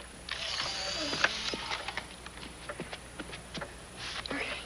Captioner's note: camera snapping